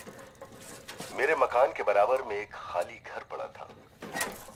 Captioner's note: radio